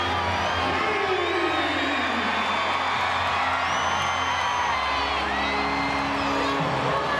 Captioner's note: crowd chattering